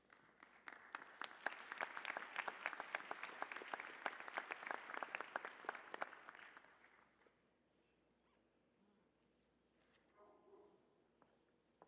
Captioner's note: applause